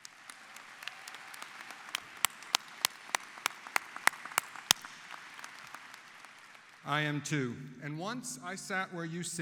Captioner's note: applause